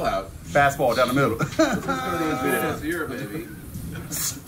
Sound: laugh

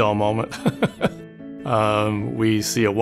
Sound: laughs

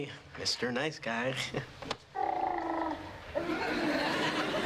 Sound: baby gurgles

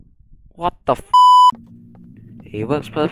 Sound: beep Sounds

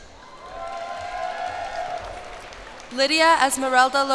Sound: cheers and applause

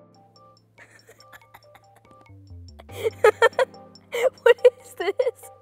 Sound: laughs

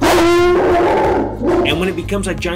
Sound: dog barking fiercely

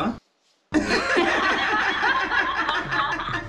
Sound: laughs; upbeat music

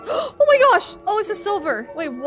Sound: gasping

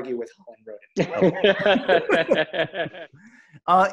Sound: laughing

